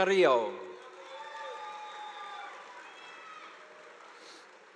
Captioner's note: audience applauding